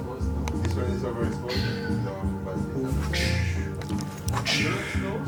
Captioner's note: whipping noises